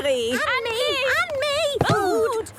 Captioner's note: calling out in turn